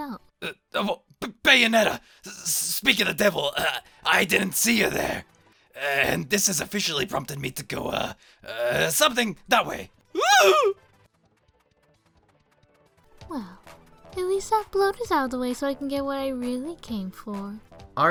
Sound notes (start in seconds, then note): 10.1 squeal